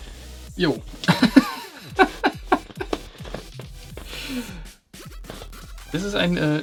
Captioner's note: laughing